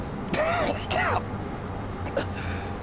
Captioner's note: coughing